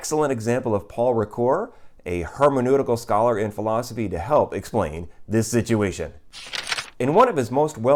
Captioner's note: page turning